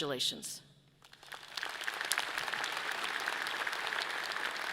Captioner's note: audience clapping